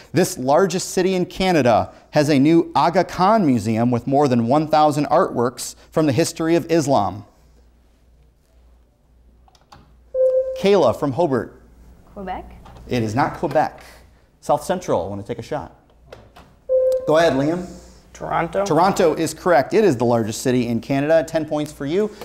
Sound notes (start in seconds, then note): 10.1 buzzer sounds; 16.7 buzzer sounds